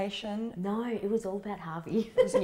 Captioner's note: chuckles